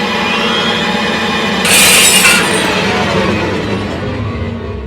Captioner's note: tense music; mirror shattering